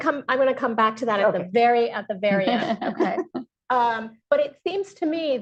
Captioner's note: laughs